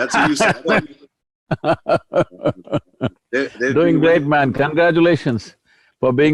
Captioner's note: laughs; Sadhguru Laughs